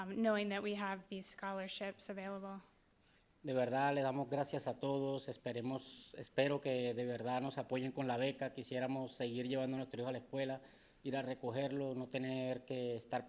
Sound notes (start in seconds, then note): 3.6 speaking in foreign language